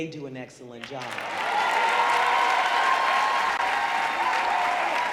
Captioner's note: audience cheering